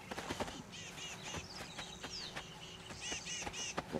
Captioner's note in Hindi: चहचहाहट